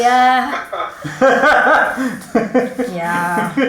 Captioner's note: cameraman and burst out in laughter